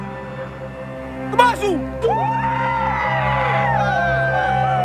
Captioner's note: Fijian spoken audio